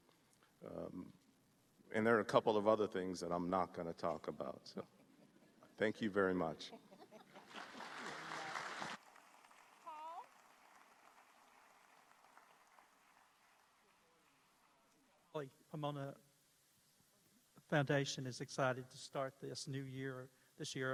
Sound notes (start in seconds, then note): 9.2 applause; 9.2 laughter